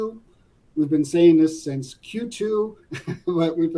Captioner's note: laugh